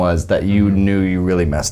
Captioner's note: none